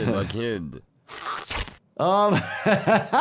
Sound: gloves squelch; laughs

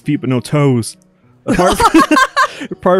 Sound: cackles

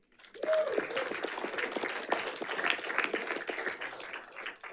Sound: audience applauding

